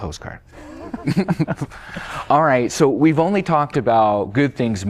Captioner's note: laughter